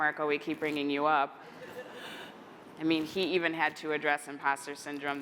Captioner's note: laughter